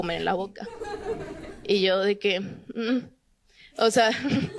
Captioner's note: Risas